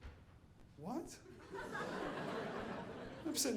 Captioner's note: audience laughing